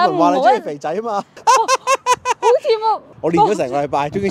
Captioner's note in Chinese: 扮bob叔笑聲